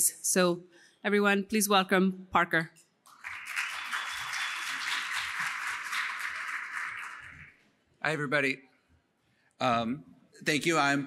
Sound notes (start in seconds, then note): 3.0 applause